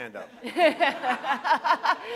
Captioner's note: laughter